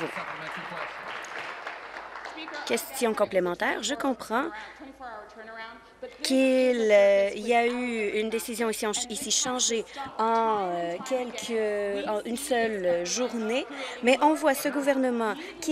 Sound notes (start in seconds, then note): 2.7 applause